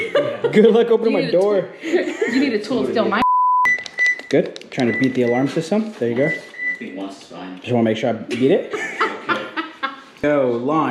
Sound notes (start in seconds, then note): 3.2 high pitched beeping; 4.9 car beeping